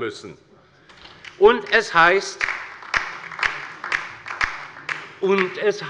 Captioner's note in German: Beifall bei der LINKEN